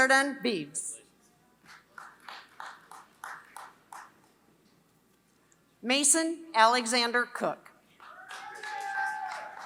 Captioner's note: applause